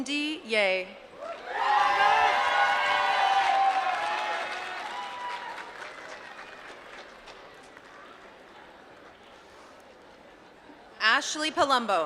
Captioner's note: applause